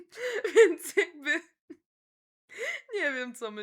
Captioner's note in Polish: śmiech